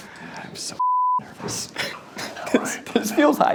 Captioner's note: beep